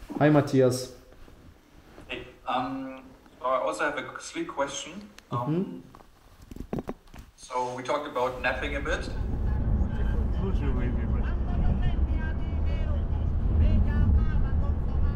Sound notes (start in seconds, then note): 8.3 car driving; 10.8 radio playing